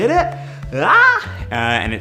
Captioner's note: screams